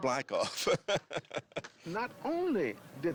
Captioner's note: laughs